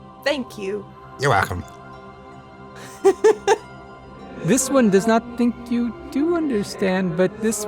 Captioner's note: chuckles